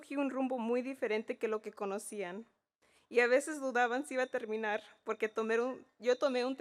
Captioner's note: speaking in Spanish